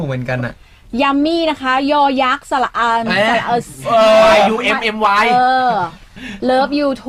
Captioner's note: reading out in thai alphabets